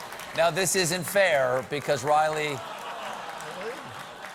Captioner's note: audience reacts